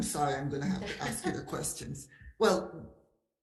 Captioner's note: laughs